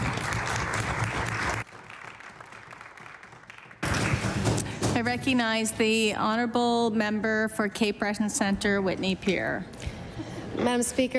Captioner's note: applause